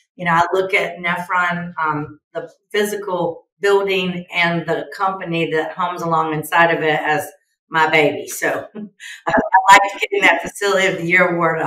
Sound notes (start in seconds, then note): 9.2 chuckles